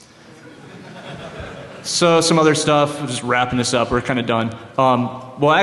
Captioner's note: laughter